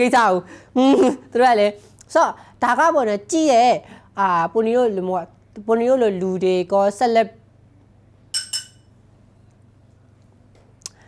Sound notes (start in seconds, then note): 8.3 clink clink